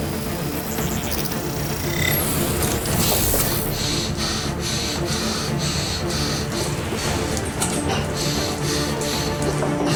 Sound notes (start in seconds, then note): 1.8 electrical zap; 3.8 gasping